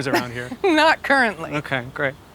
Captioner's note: chuckling